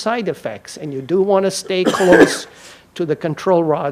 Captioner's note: audience member coughs